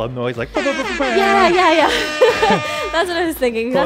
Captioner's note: horn blows